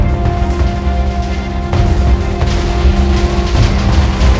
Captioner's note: explosions booming